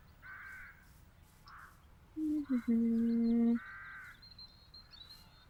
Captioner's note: hums tune